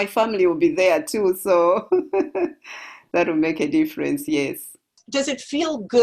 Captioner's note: laugh